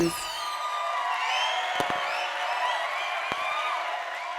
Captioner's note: audience cheering